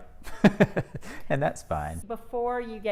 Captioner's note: laughs